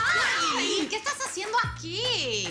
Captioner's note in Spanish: Gritos